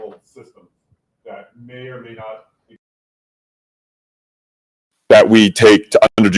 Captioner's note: audio is lost